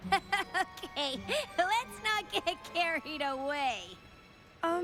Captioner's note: laughing